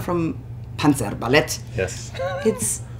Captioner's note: laughs